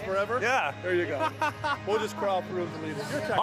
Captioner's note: laughs